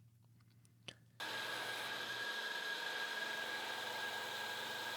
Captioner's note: tool humming